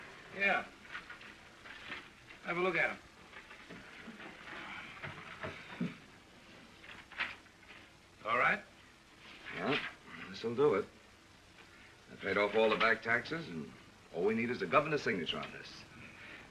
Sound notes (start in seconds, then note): none